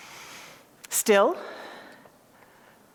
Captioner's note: sigh